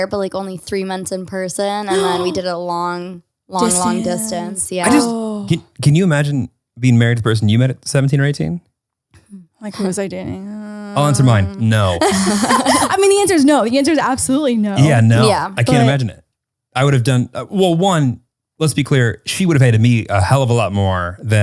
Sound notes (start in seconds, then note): 12.4 laughs